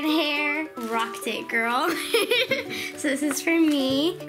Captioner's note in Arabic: ضحك